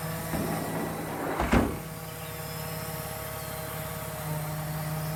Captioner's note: tow truck lift humming